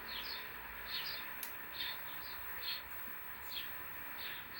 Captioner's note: birds chirping